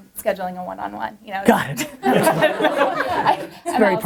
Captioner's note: laughs